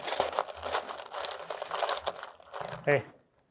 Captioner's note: bolts and screws jumbling